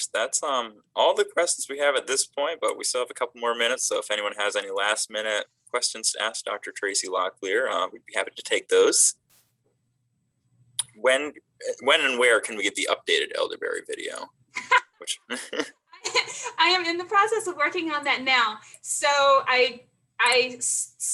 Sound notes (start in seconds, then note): 14.6 laughs